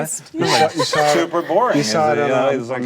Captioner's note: group chatter